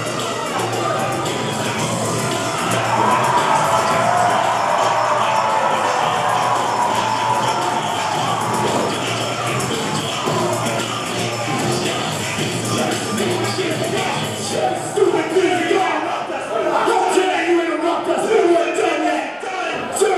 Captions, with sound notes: (audience cheering) (wrestlers yelling) - How stupid do you think we are? Don't you interrupt yet, we weren't done yet!